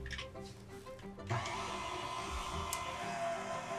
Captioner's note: mixer whirring